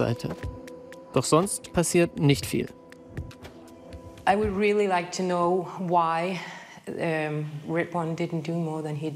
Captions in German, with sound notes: Doch sonst passiert nicht viel. (Angespannte Musik) (englisch:)